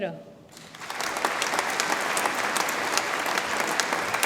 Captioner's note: audience applauds